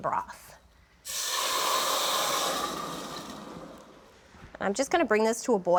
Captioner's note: sizzling